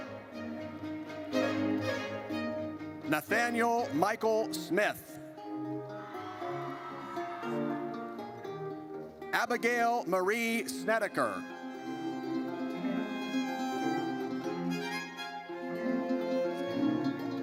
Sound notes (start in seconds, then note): 0.1 triumphant music; 5.9 audience cheers; 11.9 triumphant music